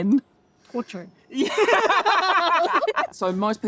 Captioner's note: laughing